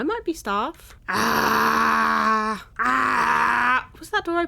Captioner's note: screams